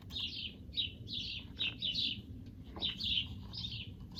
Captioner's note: birds chirping